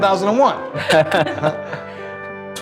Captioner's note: laughter